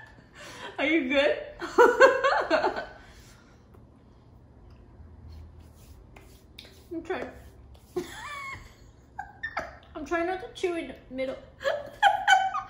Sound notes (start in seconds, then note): 3.0 laughing; 8.1 laughs